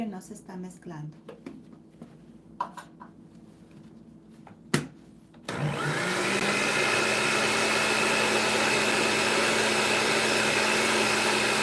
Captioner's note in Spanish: ruido de licuadora